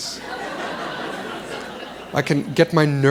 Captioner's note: laughter